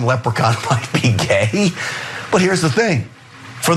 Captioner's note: laugh